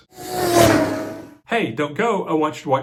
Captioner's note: car zooming